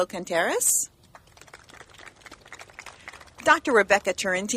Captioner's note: clapping